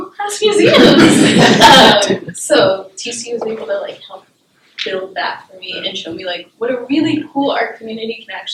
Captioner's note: laughter